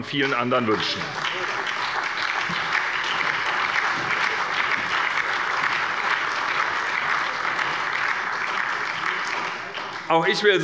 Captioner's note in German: Allgemeiner Beifall